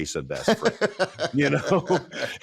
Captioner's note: laughs